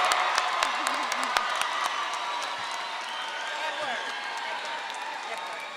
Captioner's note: audience clapping and cheering